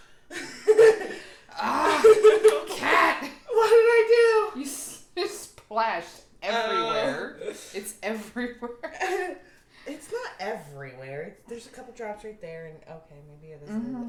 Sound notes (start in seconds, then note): 1.4 laughs; 1.5 exasperated noise